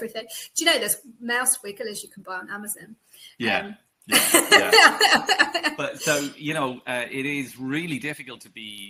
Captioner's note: laughs